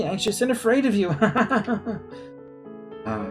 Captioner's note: laughs nervously